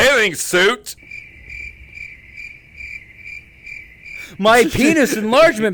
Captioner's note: crickets chirping